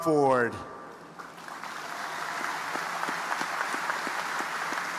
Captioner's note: audience applauding